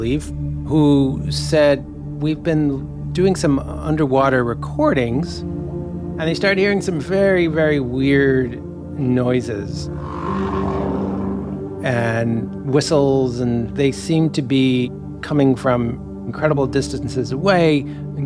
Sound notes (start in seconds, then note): 9.9 whale call rumbling